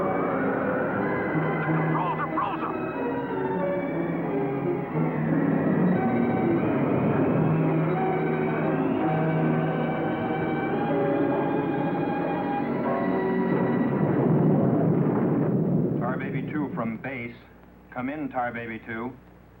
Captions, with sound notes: The controls are frozen! (booming) - Tar Baby 2 from base. Come in, Tar Baby 2.